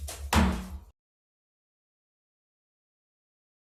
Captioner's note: gavel thumps